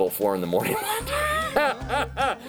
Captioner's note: laughs